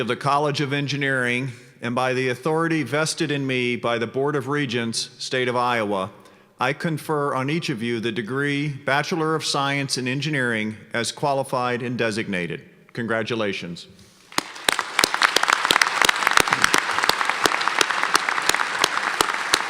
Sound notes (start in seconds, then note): 14.3 applause